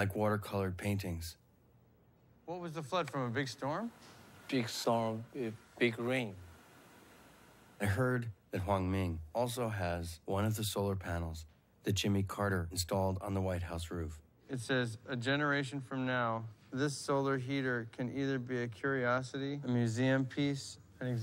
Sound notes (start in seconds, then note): none